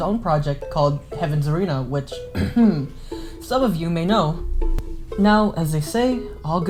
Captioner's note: ahem